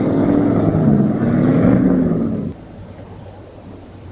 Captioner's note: engine rumbling